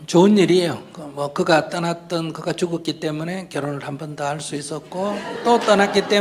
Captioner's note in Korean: 청중 웃음